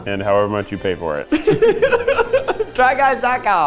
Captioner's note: both laughing